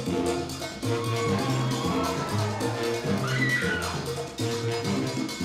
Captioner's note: audience cheering